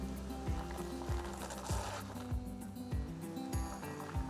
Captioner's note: gravel scrunching; upbeat music continues